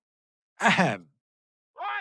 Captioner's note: ahem